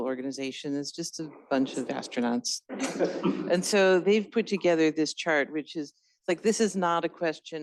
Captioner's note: laughter